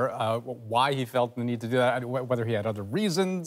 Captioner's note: yelling